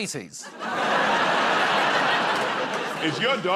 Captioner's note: laughter